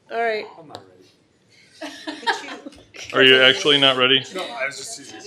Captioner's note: laughter